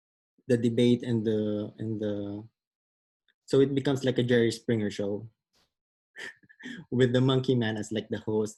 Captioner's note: laughs